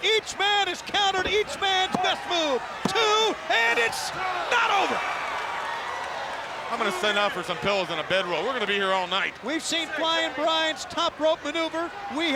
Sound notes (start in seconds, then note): 2.8 body thudding; 2.8 hand thudding